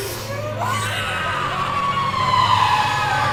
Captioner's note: screaming